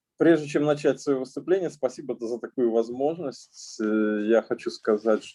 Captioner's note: speaking Russian language